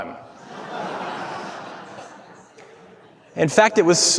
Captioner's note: audience laughing